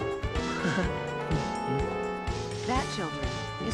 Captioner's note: nervous chuckle